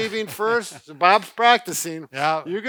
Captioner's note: chuckles